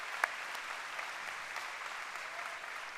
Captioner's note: applause